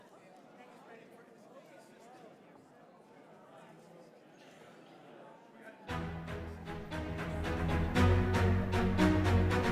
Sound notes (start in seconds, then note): 0.0 indistinct chatter